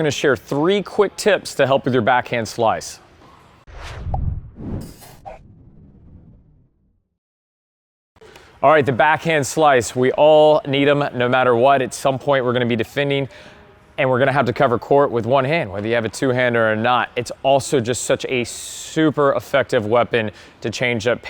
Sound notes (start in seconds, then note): 3.6 whooshing